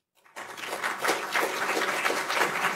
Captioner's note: applause